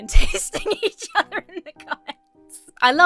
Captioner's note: laughs